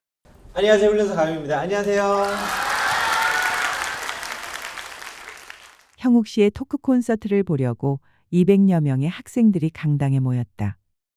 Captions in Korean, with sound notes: 안녕하세요 훈련사 강형욱입니다, 안녕하세요 [(박수)] 형욱 씨의 토크 콘서트를 보려고 200여 명의 학생들이 강당에 모였다